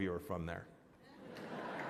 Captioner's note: laughter